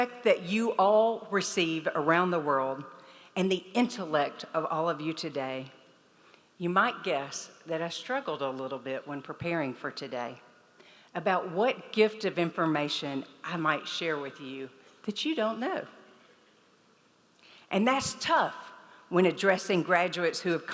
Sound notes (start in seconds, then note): none